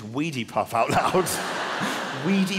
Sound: audience laughing

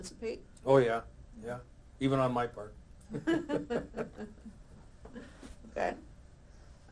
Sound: both laugh

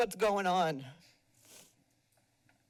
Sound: sniffles

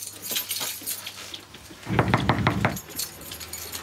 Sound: knocking

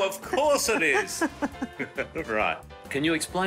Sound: laughing

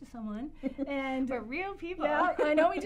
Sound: laugh

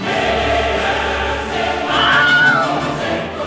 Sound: Wilhelm Scream

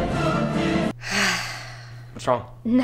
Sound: dramatic music; sigh

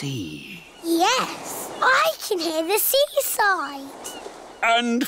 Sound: waves splashing

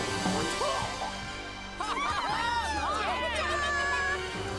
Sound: all cheering

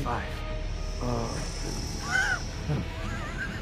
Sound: laughs

